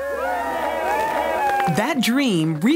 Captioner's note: applause